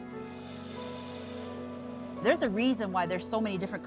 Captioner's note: saw whirring